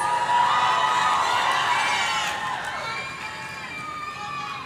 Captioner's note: audience cheering